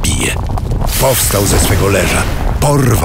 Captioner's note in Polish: wybuch